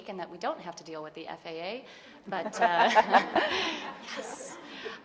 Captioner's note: audience laughing